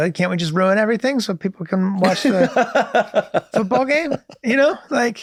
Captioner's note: Glenn and Rob laughs